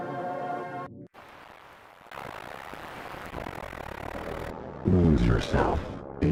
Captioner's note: static hissing